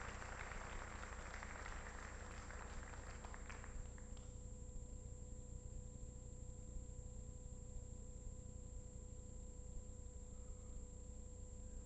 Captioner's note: applause